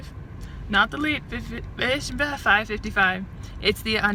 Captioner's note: stumbles over words